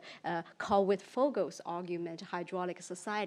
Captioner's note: speaks in foreign language